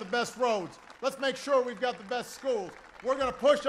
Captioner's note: applause